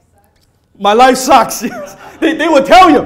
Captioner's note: laughs